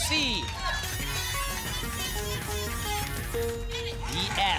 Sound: futuristic sounds

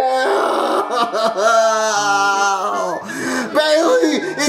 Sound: cries

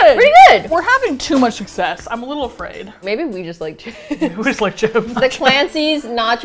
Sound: laughs

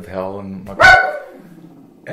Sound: dog barks

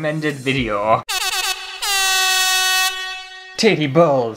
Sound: air horn!!

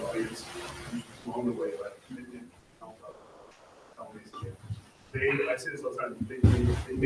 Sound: speaking faintly

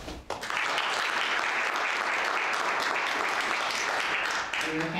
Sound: audience applauding

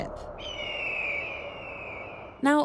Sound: bird screeches

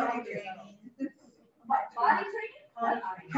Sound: audience speaking

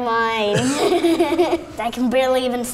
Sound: laughing

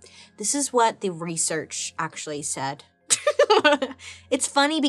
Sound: laughs

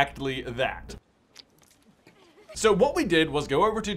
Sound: liquid splurts; girls giggling

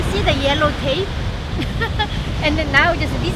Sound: laughs

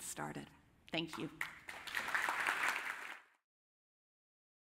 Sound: applause

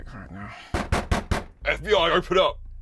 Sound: door banging

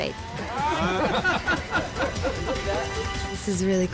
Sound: all laughing

